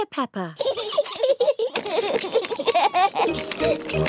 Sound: both giggling

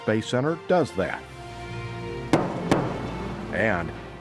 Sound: sonic booms

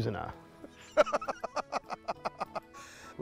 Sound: laughs

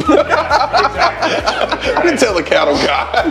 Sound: both laughing

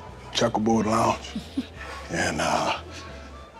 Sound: laughs

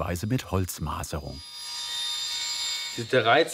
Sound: sounds of sawing

